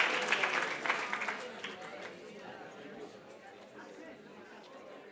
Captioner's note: people chattering